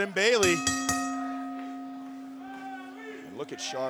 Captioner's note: bell ringing